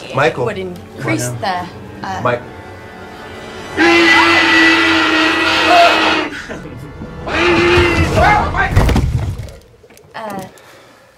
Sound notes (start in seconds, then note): 3.7 roars